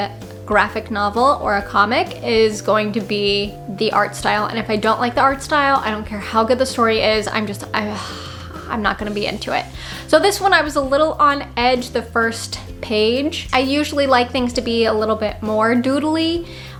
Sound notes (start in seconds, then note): 7.9 sigh